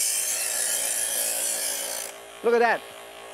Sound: knife sharpens

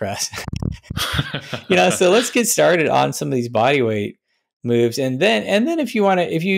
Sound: chuckles

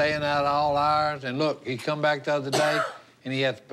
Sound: coughs

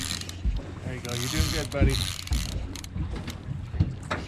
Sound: reel cranking

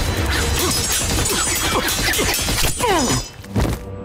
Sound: grunting

